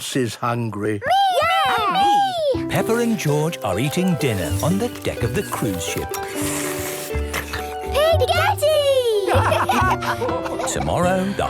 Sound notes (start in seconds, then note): 6.9 slurping; 9.2 all laugh